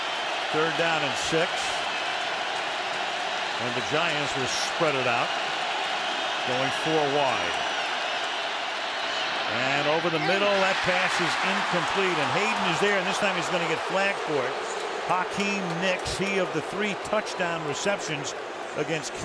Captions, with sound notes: Third down and 6. And the Giants will spread it out, going four wide. And over the middle, that pass is incomplete. [cheering] And Hayden is there. This time, he's going to get flagged for it. [booing] Hakeem Nicks, he of the three touchdown receptions